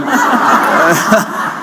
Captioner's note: laughter